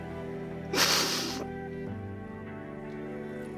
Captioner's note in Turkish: Merve ağlıyor